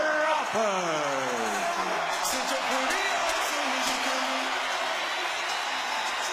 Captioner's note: crowd cheering